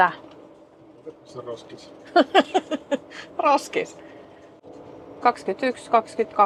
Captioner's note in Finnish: naurua